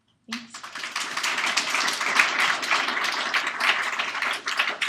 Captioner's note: applause